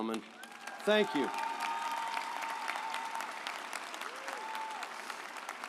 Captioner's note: audience applauds